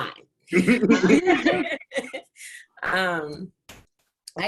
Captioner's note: laughing